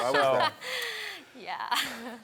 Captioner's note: laughs